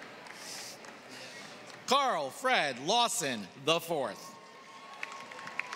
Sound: applause

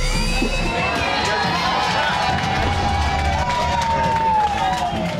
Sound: crowd cheering

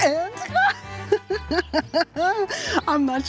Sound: laughs

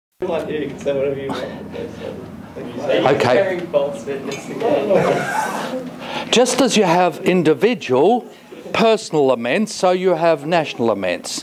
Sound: student chatter

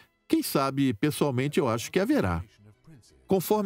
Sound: voiceover

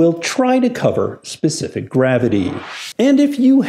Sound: air whooshing

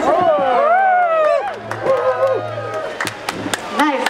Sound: crowd cheers

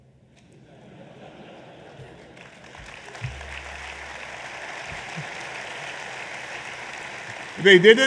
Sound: laughter and applause

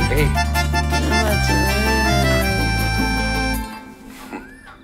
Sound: Karal blabbering in sleep

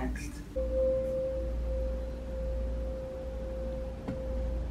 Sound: bowl humming

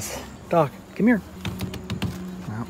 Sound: taps window

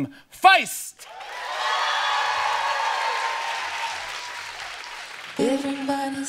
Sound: audience cheering

